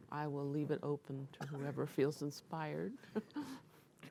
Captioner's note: laughs